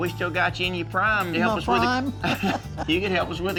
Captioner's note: laughs